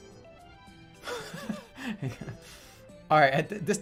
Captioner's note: bursts out laughing